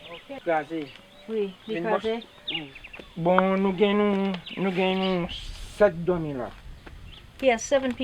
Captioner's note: conversing in Creole